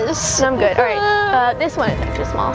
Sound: fake cries

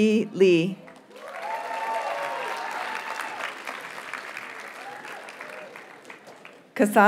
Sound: audience cheers and applauds

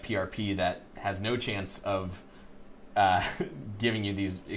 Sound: chuckling

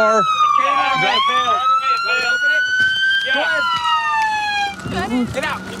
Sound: sirens and yelling

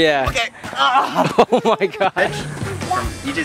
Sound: groaning

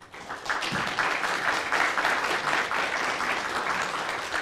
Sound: audience applauding

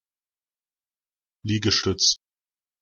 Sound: fast Pronunciation

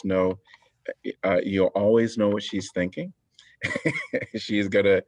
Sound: laughter

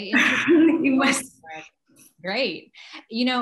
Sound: laugh

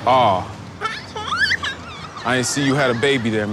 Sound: baby cooing

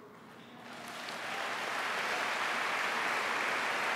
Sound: applause

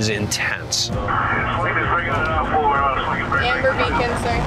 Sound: radio crackling

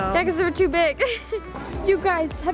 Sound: laughs

